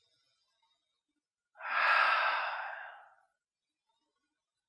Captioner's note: sighing